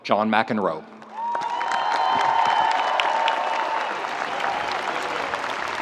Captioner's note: audience cheers and applauds